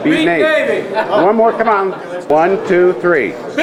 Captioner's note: group laughing